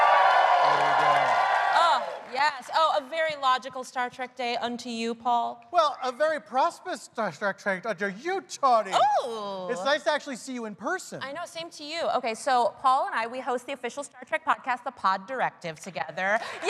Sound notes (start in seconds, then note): 5.7 cheers and applause